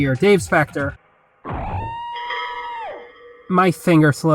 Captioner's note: screams of agony